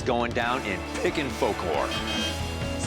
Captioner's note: horn honking